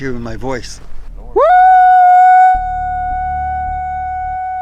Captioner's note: howls